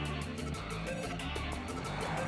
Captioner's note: Sakshi exhales